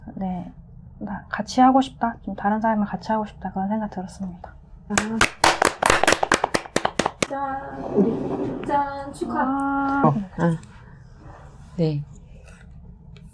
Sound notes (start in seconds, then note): 5.0 applause